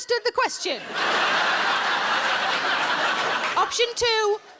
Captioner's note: audience laughing